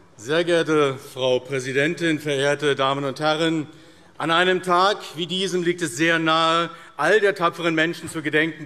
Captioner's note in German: none